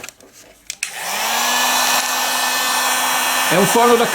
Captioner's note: hair dryer